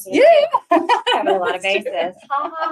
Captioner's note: laughs